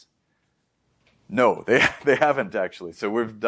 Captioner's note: lauhging